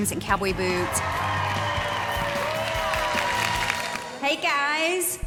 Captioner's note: group cheers